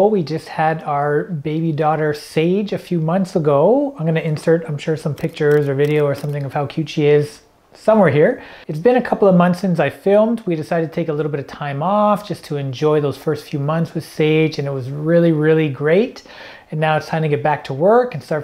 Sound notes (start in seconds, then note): 5.2 camera clicking